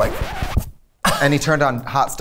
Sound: record scratching

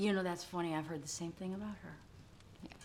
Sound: none

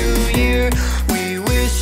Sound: inhale

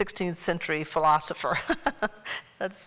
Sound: laughter

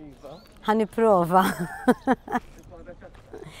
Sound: chuckles

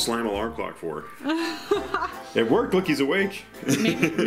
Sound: laughing; laughs

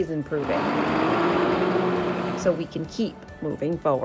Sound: bus engine revs

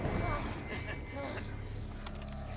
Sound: man chuckles

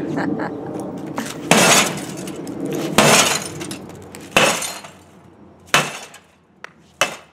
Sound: glass shatters

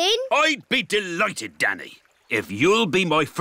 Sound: none

